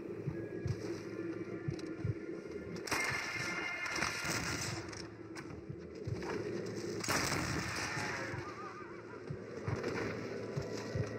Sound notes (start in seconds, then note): 2.8 sounds of cold blood, target lock and shoot